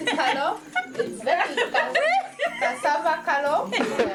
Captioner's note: laughing